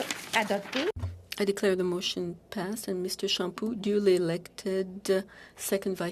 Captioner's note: speaking French